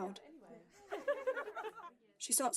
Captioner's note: women laughing